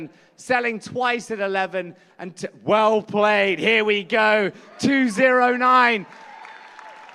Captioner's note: applause